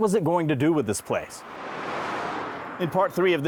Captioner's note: car drives